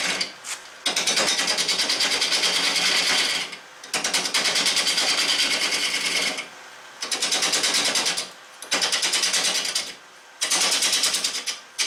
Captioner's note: noise of woodturning lathe and woodturning